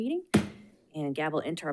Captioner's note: gavel bangs